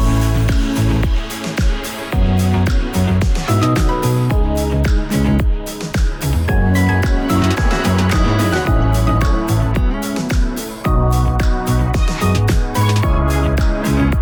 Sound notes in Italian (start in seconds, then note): 1.4 Applauso